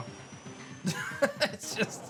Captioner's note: chuckles